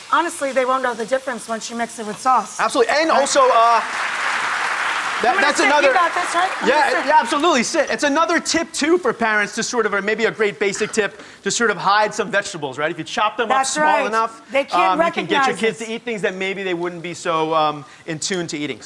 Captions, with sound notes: honestly they won't know the difference once you mix it with sauce. Absolutely! And also uh, (audience clapping) I'm gonna sit. You got this right? I'm gonna sit. Yeah absolutely, sit. It's another tip too for parents to sort of, or maybe great basic tip, just sort of hide some vegetables right? If you chop them up small enough. They can't recognize this. You can get your kids to eat things that maybe they wouldn't be so in tune to eating.